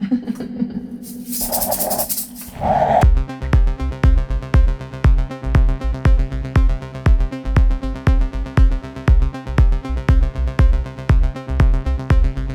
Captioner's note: laughing